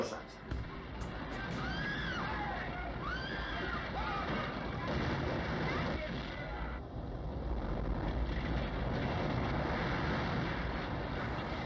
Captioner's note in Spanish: construcciones derribándose y gente gritando